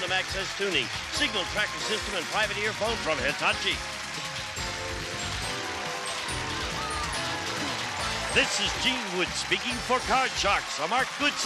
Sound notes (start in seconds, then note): 5.2 applause; 5.2 theme music playing